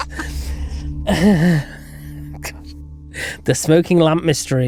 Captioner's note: both laughing